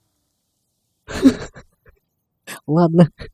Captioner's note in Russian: смех